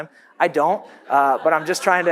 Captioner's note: audience laughs